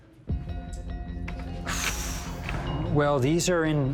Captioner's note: exhales deeply